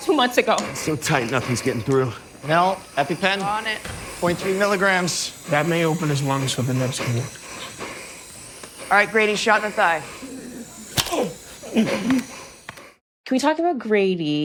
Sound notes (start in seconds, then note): 10.5 epipen thuds; 10.5 grunts